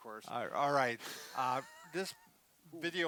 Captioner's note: laughs